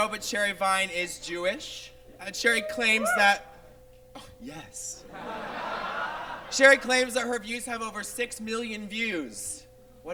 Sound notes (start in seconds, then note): 2.5 audience member whoops; 5.0 audience laughs